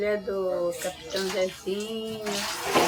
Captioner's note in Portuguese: água sendo despejada